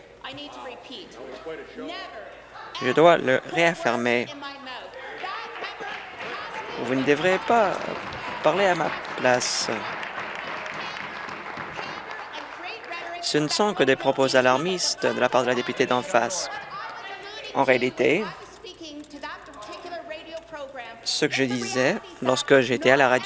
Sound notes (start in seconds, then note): 11.5 applause